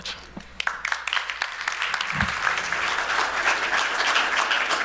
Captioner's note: clapping